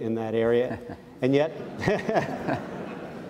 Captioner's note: audience laughs